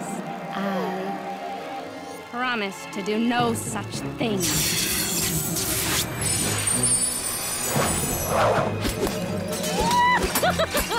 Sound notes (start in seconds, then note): 6.8 glass breaking; 10.3 evil laughter